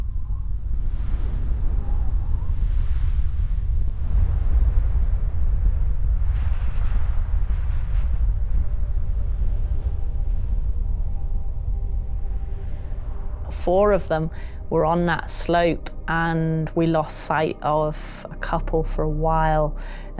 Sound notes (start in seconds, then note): 2.5 avalanche rumbling; 6.5 suspenseful music